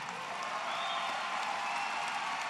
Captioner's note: applause